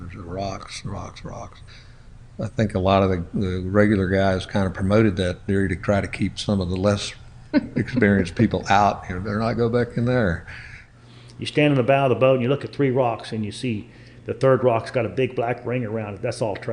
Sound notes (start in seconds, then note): 7.5 laughs